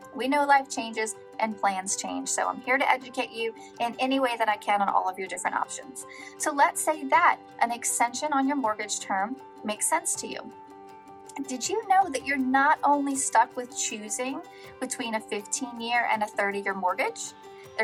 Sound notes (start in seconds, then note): none